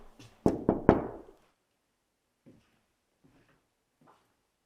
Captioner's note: knuckles tapping